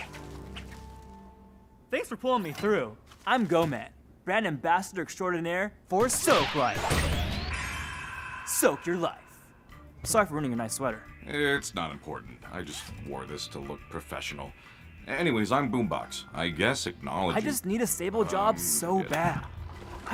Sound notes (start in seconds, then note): 7.7 refreshed sigh; 7.8 twinkling sound